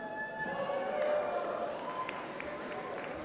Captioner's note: applause